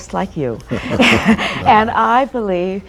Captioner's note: laughter